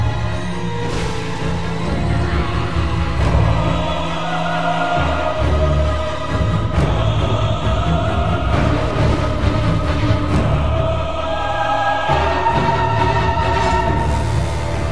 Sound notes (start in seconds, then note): none